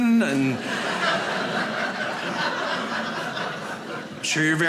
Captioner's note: audience laughing